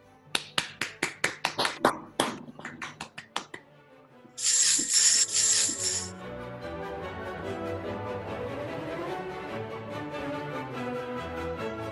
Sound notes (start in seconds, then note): 0.3 applauding; 4.4 sleigh bells jingle